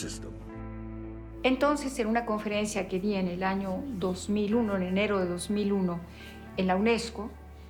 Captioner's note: in Spanish